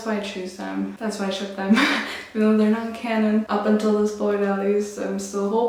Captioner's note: laughs